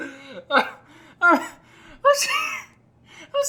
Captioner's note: more laughter